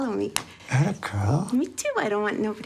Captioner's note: smack